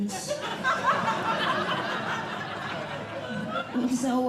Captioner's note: audience Laughing